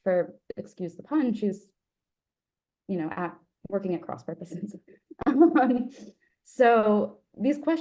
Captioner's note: laughs